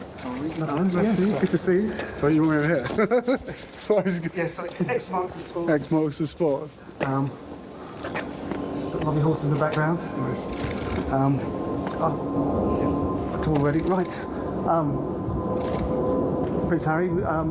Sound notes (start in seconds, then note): 2.6 laughs